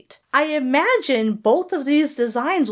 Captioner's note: none